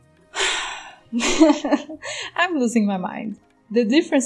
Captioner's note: sigh